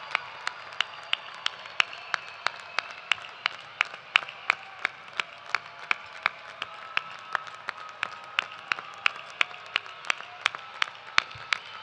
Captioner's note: cheers and applause